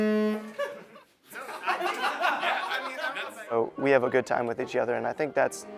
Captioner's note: laughter